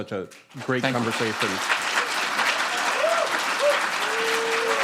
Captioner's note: applause